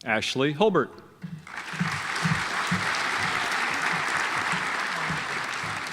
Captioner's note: audience applauds